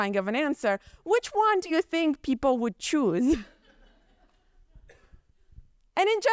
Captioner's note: chuckles